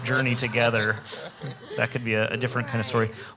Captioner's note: audience laughs